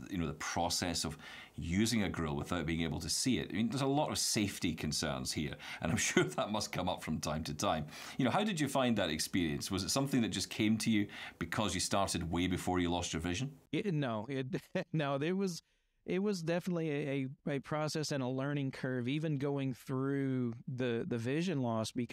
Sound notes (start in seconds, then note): 5.8 chuckles